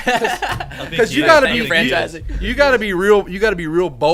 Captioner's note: laughs